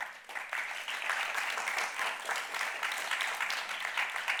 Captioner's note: crowd applauding